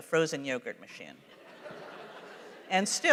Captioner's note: laughter